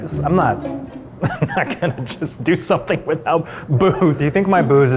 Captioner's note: laughs